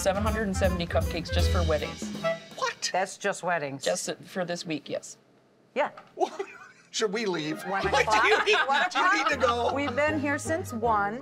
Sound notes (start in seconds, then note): 6.2 chuckling; 7.8 laughing